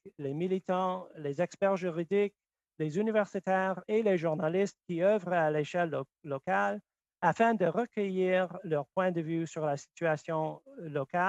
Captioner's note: speaking French